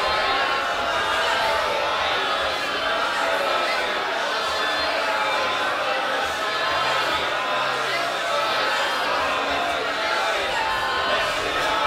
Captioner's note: chanting